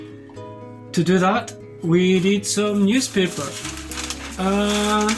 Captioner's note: newspaper crinkles